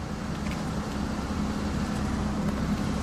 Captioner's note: engine humming